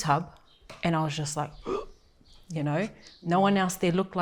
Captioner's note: inhales sharply